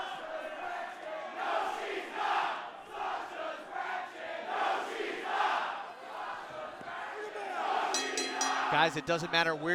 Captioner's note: fans chanting